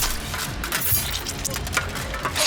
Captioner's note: sword swishing; blood squelching